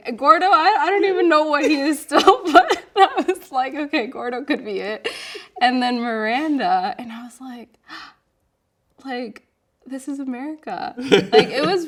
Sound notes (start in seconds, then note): 2.3 laughing; 9.2 gasps; 11.0 laughing